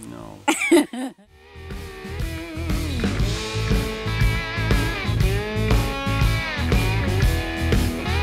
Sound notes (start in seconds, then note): 0.4 laughs; 1.4 rock music